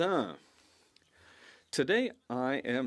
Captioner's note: speaking French